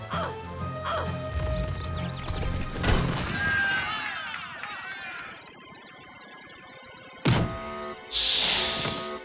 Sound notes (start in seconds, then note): 2.4 crumbling; 3.3 cheers and applause; 7.4 buzzer sounds